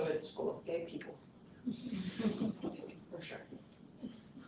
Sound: laughter

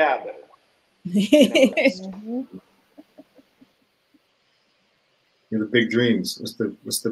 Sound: laughs

